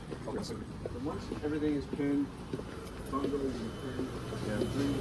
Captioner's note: to begin sewing... FACTORY NOISES!!